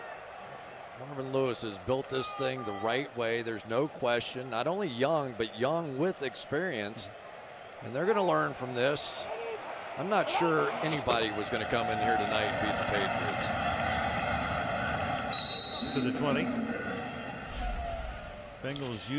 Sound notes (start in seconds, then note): 15.3 whistle blows